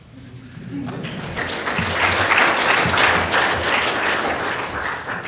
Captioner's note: clapping